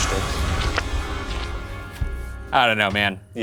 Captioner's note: paper rustling; deep ominous music